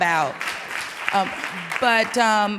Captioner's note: audience applauding